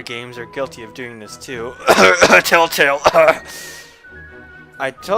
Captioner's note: cough cough; cough